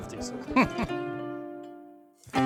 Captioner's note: chuckles